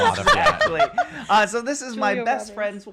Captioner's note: laughing